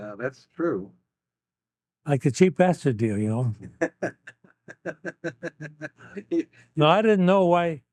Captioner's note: laughing